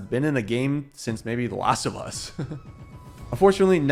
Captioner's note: chuckling